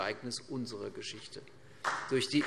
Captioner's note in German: Beifall CDU und BÜNDNIS 90/DIE GRÜNEN